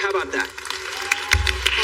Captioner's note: people clappiping